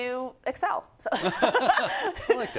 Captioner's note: laugh